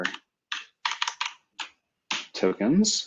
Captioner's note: typing